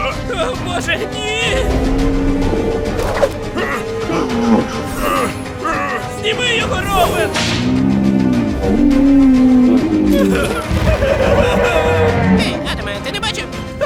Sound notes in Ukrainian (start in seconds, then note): 1.7 Вжухбах; 4.0 аааааааааааааааа; 10.0 хниииииииииииииик; 10.1 хникхникхник